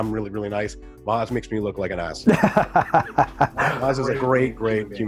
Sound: laughs

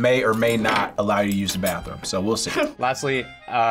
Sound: chuckles

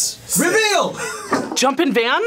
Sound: laughs

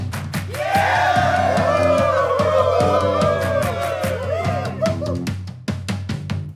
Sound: cheers

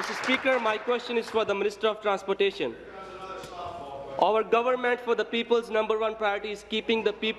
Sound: applause

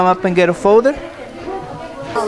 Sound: students Talking

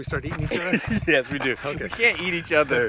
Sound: laughing

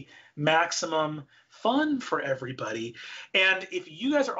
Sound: none

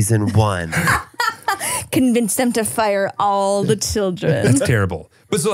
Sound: laughs

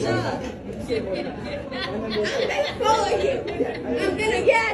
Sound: laugh

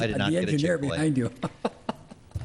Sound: laughs

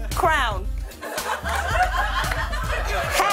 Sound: laughter

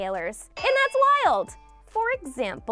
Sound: bell clanging

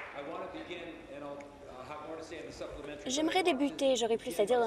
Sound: applause

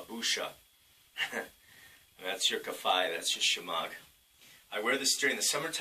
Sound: giggle

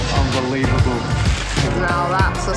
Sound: rustling sound

